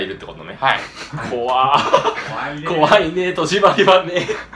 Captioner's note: laugh